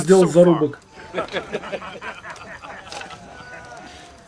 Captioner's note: laughter